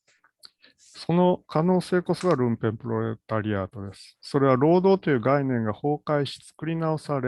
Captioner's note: speaks in Japanese